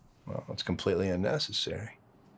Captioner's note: none